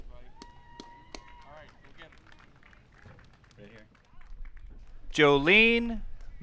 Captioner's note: audience cheering and applauding